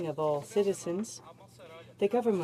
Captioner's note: speaking in french